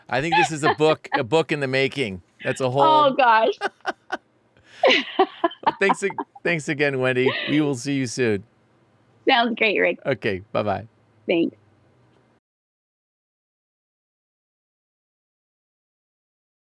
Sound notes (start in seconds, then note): 4.8 laughs